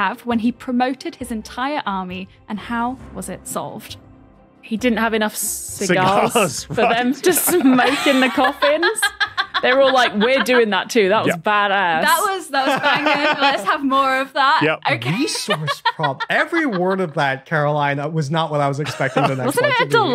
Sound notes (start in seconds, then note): 8.9 laughs heartily; 14.9 laughs